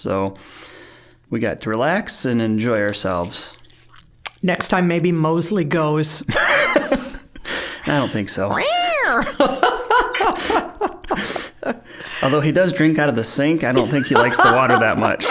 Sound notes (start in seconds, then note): 6.3 laughing; 8.5 imitating cat yowl; 9.0 both laughing